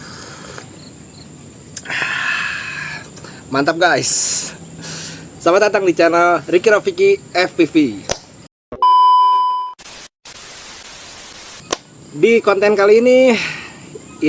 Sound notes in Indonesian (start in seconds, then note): 1.8 menghela napas; 1.8 terkesiap